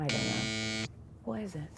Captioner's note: buzzer buzzing